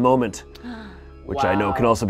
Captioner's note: gasping